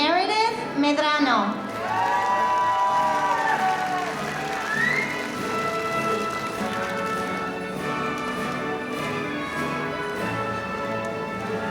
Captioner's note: applause